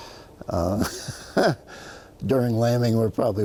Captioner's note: laughs